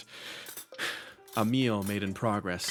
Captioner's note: sigh